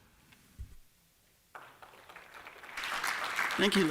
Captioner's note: applause